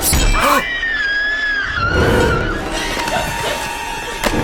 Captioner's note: horror music; Heather screaming